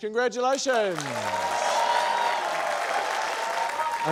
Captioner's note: cheering, applause